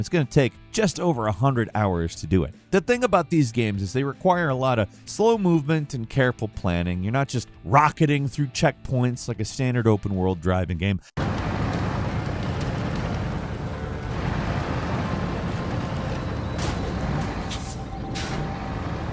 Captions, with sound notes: it's gonna take just over 100 hours to do it. The thing about these games is they require a lot of slow movement and careful planning. You're not just rocketing through checkpoints like a standard open world driving game. (engine hums lightly)